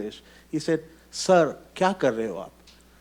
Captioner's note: speaks in Hindi